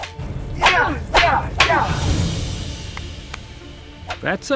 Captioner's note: grunting; Ben-Hur claps